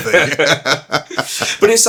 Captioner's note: laughing